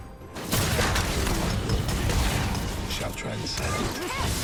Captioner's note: spells booming